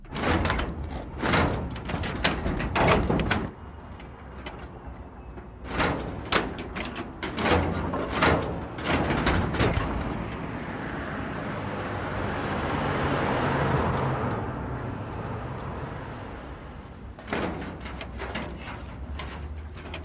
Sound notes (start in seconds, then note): 1.1 door thudding; 11.3 engine rumbling